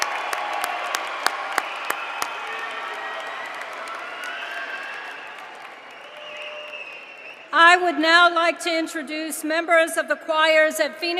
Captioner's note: cheers and applause